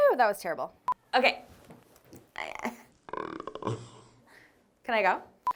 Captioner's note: beep sounding; sound distorted; beep sounding